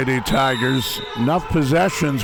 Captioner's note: whistle blows